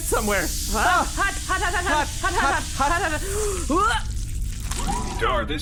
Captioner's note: makes fleshy noises